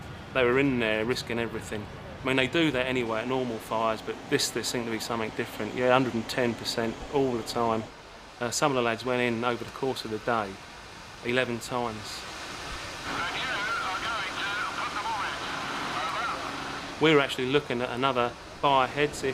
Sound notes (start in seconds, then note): 13.0 radio buzzing